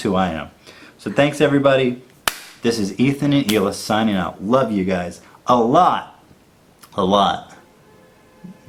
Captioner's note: clap